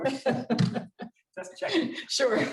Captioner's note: laughter